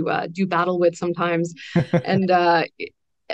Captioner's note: laughs